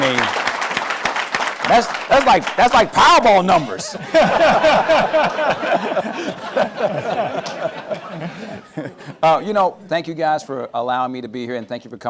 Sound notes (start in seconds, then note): 0.0 applause; 3.9 laughter